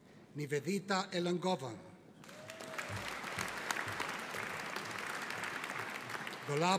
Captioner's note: audience applauding